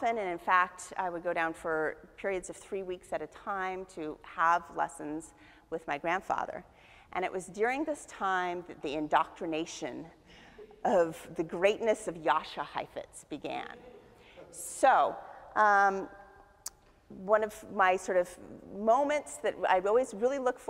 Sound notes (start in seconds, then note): 14.1 audience chuckles